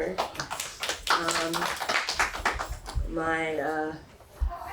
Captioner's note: group applauding